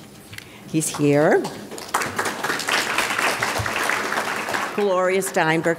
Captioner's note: audience applauding